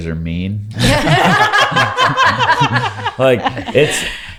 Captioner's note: laughing